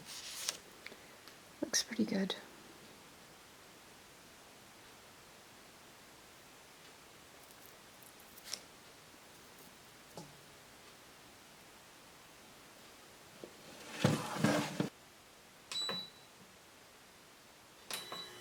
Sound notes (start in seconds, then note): 13.6 scraping sound of tray sliding; 16.2 beep, beep, setting timer